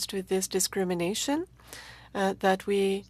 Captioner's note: speaking french